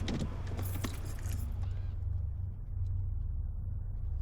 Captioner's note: keys jangling